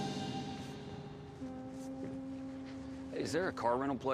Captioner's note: boat horn blaring